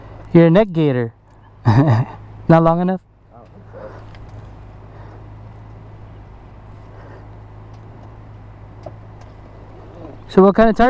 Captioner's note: laugh